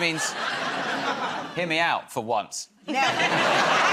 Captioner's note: laughter